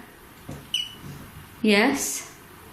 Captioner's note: beep